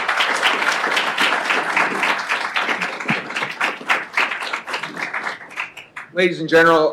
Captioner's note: applause